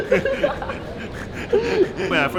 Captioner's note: heavy breathing